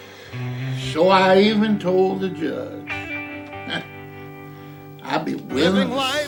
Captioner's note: laughs